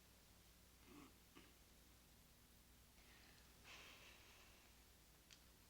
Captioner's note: Sebastian clearing throat